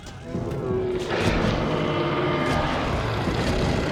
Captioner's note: roaring